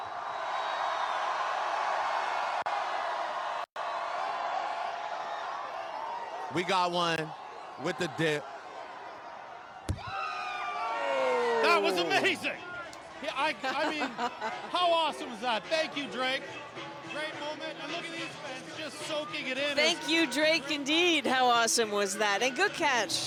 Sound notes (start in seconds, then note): 7.0 cheering; 8.3 yelling